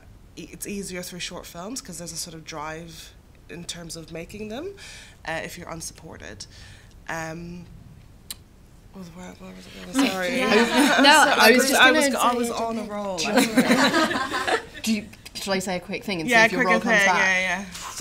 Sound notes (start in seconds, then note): 10.5 laughter; 13.2 laughter